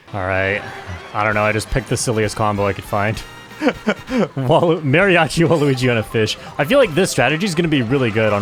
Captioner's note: laughs